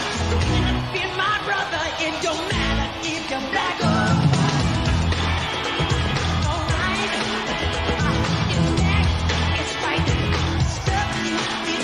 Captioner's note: applause